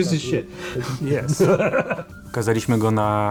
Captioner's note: laughs; in Polish